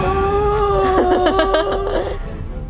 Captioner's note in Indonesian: Heh heh